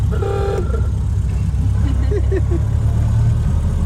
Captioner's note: laughter